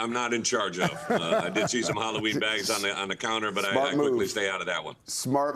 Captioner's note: laughter